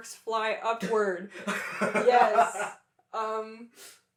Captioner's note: laughter